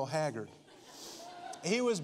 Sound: congregation laughing

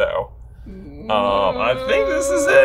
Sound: groans

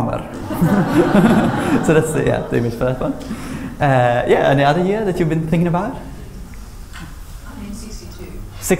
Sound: laughter

